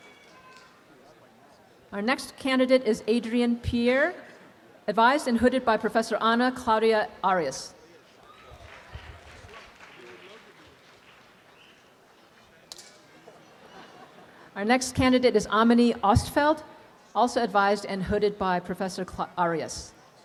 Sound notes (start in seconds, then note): 0.0 students cheer and applaud; 8.2 students cheer and applaud; 12.7 palms smacks; 13.2 faculty members laughing